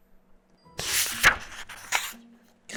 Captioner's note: flipping pages~